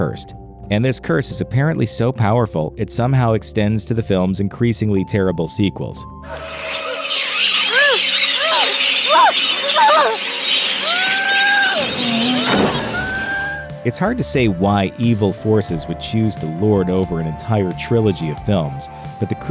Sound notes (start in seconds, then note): 6.2 kid with possessed braces yelling